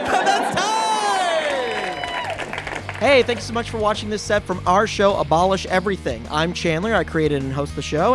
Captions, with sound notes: And that's time! (audience cheers and applauds) Caption+ by JS* caption.plus | @caption_plus Hey, thank you so much for watching this set from our show, Abolish Everything! I'm Chandler. I created and host the show.